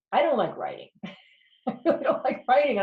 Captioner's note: laughs